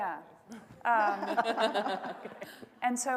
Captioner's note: panel laughing